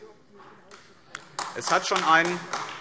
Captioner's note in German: Beifall AfD